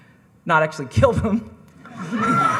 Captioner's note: laughs; audience cackling